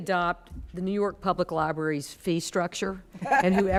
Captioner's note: laughing